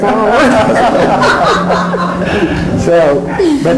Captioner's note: laughter